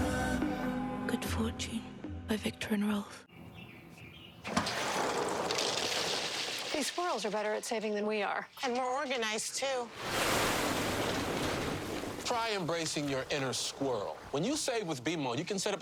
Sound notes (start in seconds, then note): 2.9 clattering; 10.0 whooshing